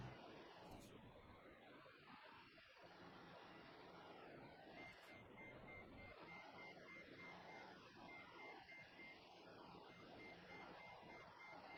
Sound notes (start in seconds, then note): none